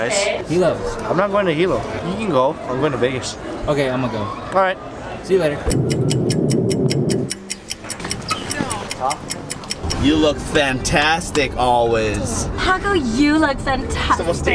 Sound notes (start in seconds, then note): 5.6 clock ticking